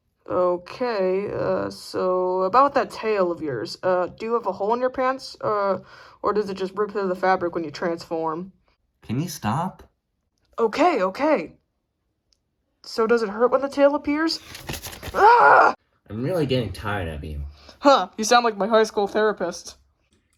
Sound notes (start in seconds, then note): 15.1 screams